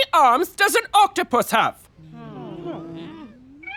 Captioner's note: groaning